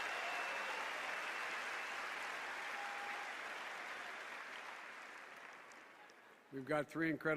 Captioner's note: applause